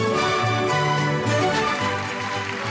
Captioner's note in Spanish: Público aplaude